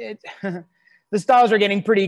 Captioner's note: chuckles